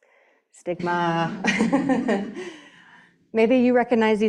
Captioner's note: laughing